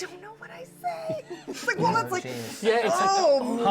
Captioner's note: sucks in breath; everyone makes nervous noises